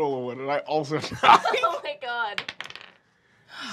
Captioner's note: dice clacking